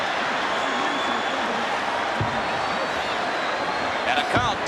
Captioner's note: audience cheers